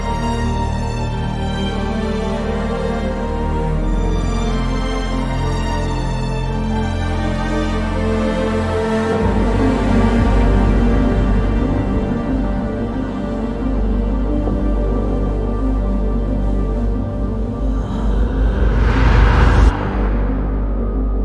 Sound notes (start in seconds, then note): 10.1 distant thunder rumbling; 17.7 breathy otherworldly sigh